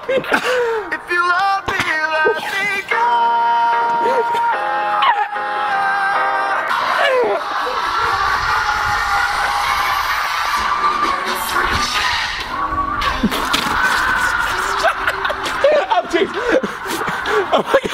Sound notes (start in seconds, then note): 7.1 crowd cheering